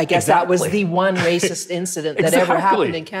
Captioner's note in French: rire